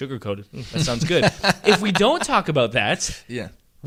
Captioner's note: laughter